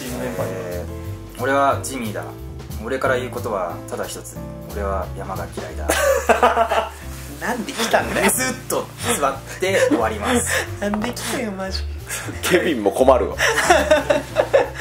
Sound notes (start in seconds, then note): 5.9 laughs; 9.5 laughs; 13.4 laughs